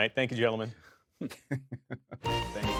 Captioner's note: laughter